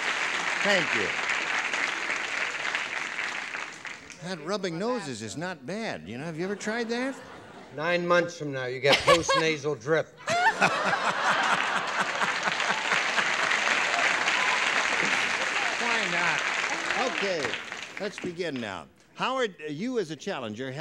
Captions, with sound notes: Thank you. That rubbing noses is not bad. Have you ever tried that? -Nine months from now you get post nasal drip. (laughter) (applause) -Why not? Okay, let's begin now. Howard, you as a challenger